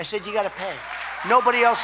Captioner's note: applause